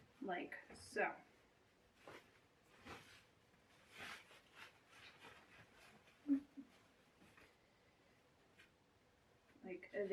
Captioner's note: sound of fabric rustling